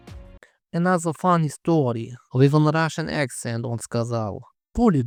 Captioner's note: doing russian accent